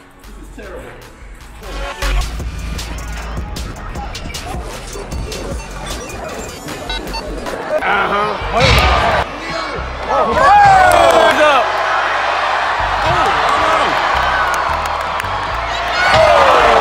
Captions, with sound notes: - This is terrible. (upbeat music) (body slamming) (crowd cheering)